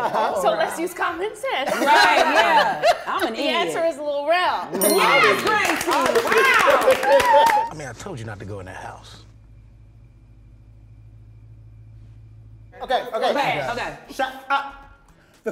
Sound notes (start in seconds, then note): 5.1 cast applauding and cheering